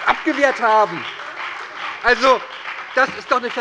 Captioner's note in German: Heiterkeit und Beifall bei der SPD und der FDP